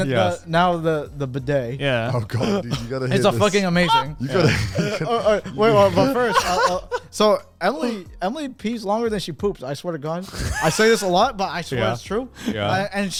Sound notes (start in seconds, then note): 4.8 laugh